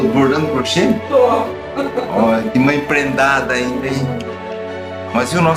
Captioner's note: laughter